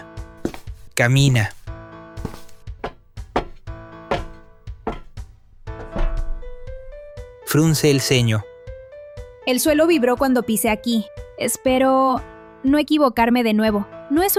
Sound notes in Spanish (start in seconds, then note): 2.2 sonido de pasos sobre Cerámica; 3.7 sonido de pasos sobre metal